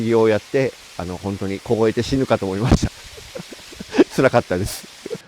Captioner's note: laugh